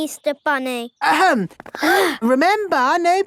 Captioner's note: all gasp